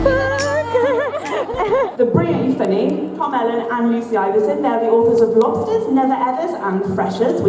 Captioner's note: laughter